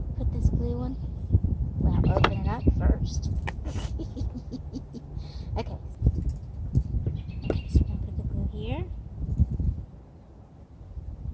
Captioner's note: laughter